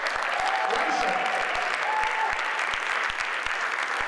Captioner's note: audience applauds